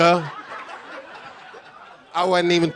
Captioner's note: audience laughing